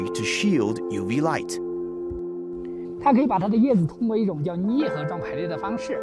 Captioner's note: speaking Chinese